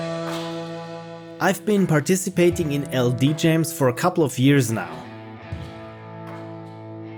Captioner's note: narrating